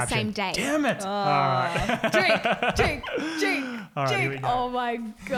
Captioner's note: laughing